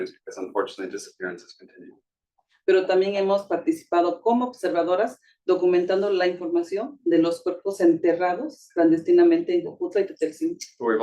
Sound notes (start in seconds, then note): 2.8 speaking Spanish